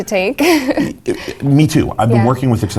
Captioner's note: laugh